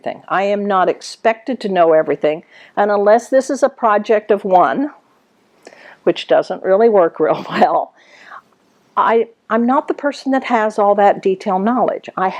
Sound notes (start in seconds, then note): 8.8 laughs